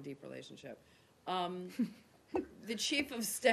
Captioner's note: laughter